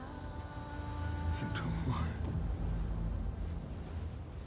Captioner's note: Ibrahim whispering prayer in Yoruba